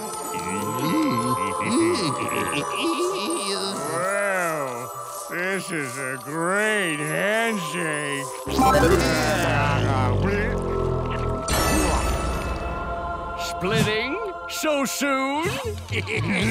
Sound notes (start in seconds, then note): 2.4 chuckles; 15.4 laughing